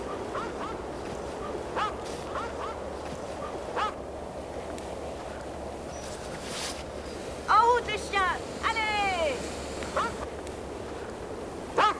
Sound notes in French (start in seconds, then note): 1.7 Les aboiements de chiens